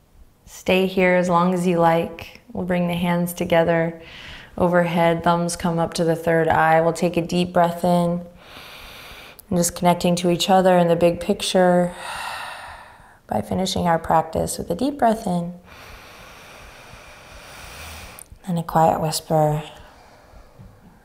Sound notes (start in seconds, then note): 8.4 inhaling deeply; 11.9 exhaling deeply; 15.6 inhaling deeply